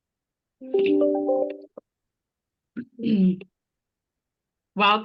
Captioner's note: digital tone chimes